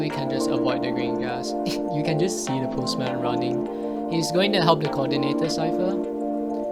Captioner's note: wheeze